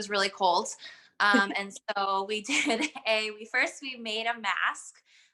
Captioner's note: laughter